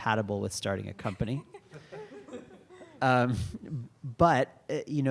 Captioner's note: laughter